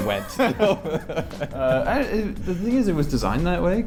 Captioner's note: laughs